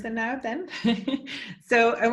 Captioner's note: chuckles